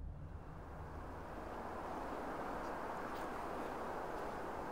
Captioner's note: traffic humming